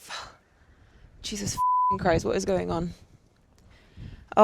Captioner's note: beep